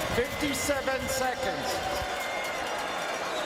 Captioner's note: crowd Noise